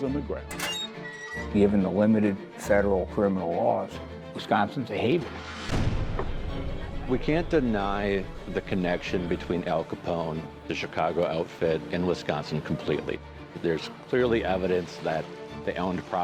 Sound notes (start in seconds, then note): 0.4 door creaking; 6.4 door slamming